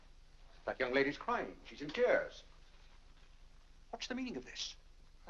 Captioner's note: none